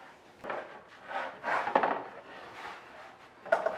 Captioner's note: spatula scraping